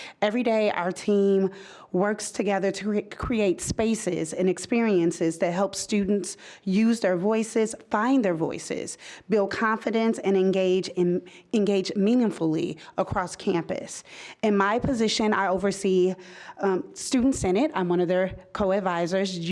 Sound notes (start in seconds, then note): none